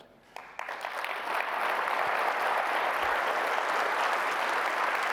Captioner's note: applause